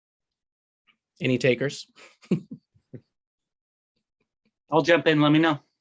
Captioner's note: chuckles